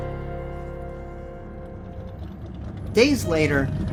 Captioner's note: car engine revs